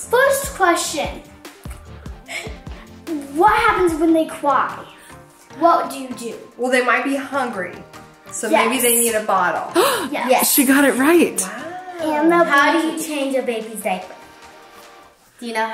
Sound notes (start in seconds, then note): 9.7 gasps